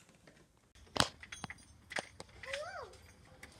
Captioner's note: bells ringing on door